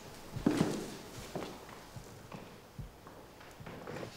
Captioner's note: footsteps plodding